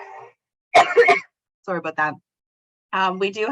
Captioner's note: coughs